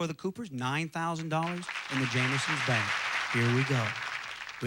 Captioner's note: audience applauding